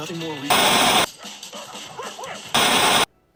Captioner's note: static hisses; dogs barking; static hisses